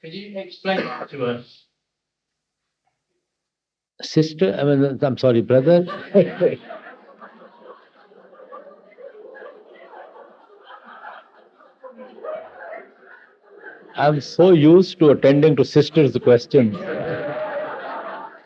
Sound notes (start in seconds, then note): 9.5 big laughter; 12.1 laughs